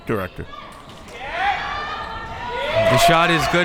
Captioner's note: crowd members shouting